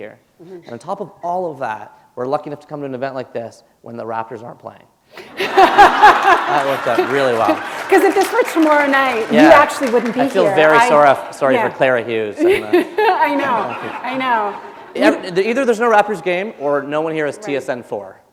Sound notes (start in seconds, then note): 5.2 laughter